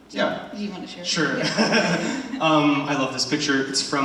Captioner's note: laughs